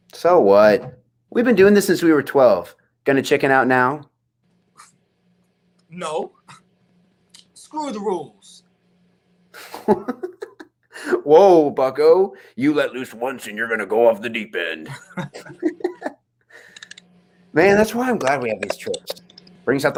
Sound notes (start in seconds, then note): 9.5 Asher laughs; 14.8 laughing